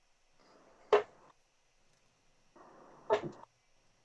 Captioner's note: dart ticks